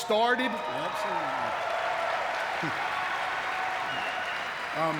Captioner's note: audience cheering